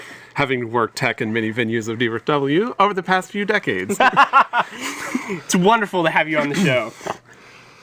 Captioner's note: laughs